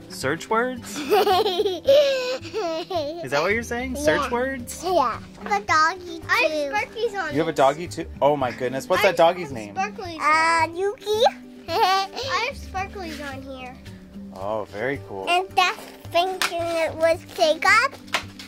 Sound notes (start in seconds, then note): 0.9 giggles; 11.7 laughs